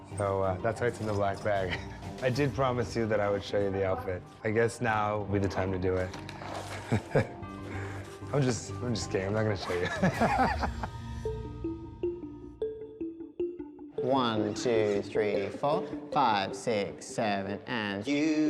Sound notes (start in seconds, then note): 6.6 chuckling; 9.6 laughing